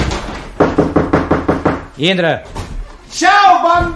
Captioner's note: knocks on the door